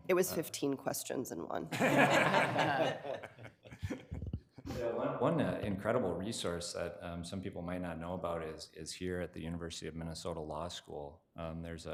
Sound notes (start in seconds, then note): 1.7 room laughing